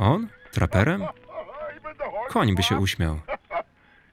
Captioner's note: laughs